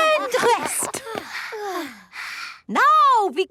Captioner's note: panting